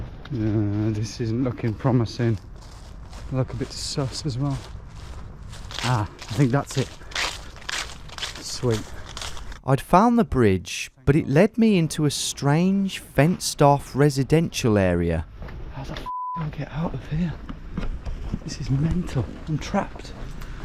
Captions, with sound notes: This isn't looking promising. I look a bit sus as well. Ah, I think that's it. Sweet. I'd found the bridge, but it led me into a strange fenced off residential area. How the (beep) do I get out of here? This is mental. I'm trapped.